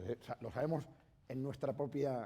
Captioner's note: speaking spanish